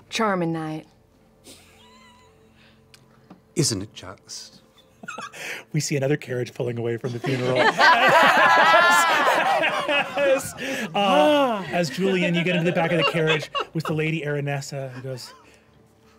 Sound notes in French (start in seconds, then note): 7.0 rires